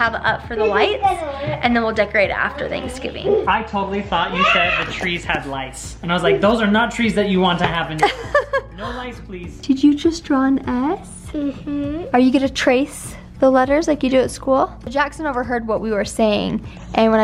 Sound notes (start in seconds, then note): 8.0 laughs